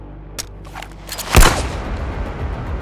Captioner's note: gun firing; dramatic music